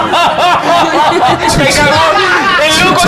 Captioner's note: laughs